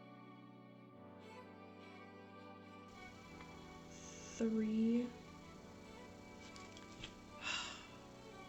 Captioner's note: long sigh